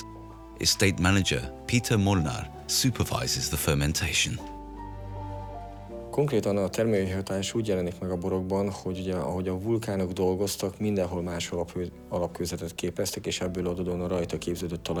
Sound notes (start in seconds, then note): 5.7 speaking in foreign language